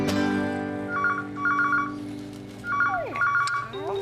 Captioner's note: phone Rings